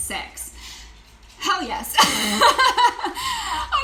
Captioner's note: laughing